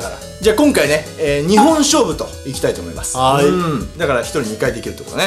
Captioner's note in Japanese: ポン音